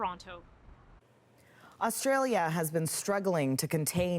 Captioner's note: none